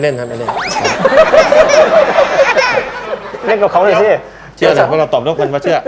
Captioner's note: laughing